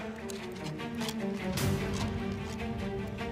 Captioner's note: disk clicks